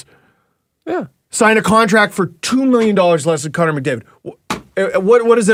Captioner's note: incredulous